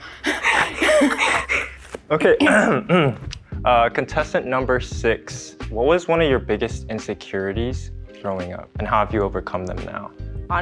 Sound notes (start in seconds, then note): 0.1 laugh; 2.3 clears his throat